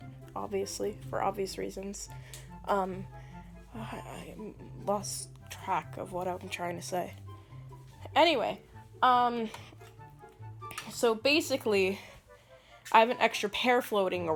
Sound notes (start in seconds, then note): none